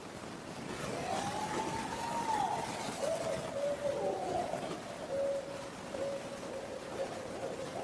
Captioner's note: white noise crackling; owls calling